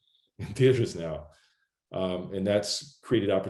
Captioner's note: chuckles